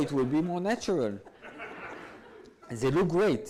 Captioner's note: audience laughs